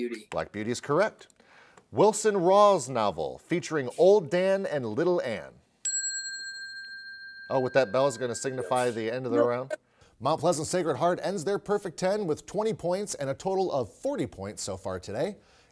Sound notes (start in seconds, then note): 5.9 bell chimes